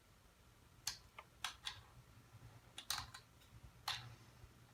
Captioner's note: light tapping